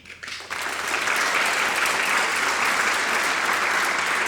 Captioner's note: audience applauds